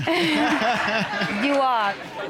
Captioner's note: all laughing